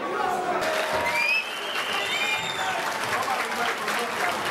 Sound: whistling and clapping

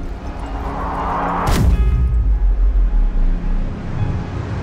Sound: calm music; low whooshing

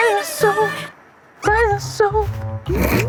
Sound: in a pitchy mosquito tone

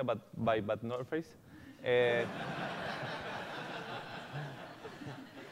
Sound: laughter

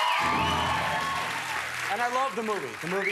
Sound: cheers and applause

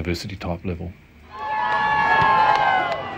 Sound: cheering

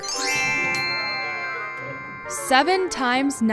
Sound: bells chime

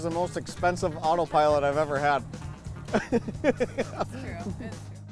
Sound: laughs

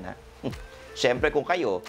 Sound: chuckles

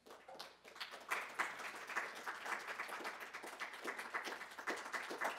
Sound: audience applauds

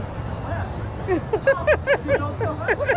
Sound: laughter

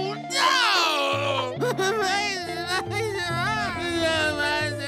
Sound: crying

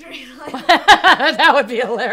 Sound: laughs

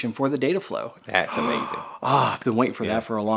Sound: gasps

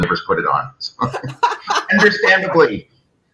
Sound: laughs out loud

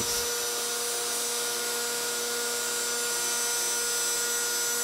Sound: slot cutter buzzing

